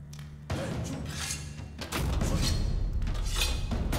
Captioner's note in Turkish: Hançer çekme sesi; Müzik - Gerilim